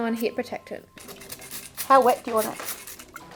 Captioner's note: sprayer hissing